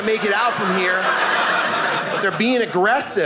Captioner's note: audience laughing